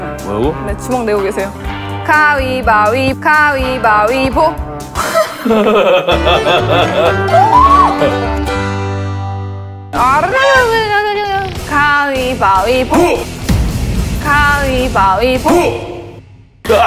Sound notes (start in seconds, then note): 5.0 laughing